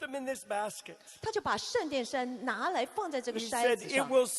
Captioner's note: interpreter speaking in foreign language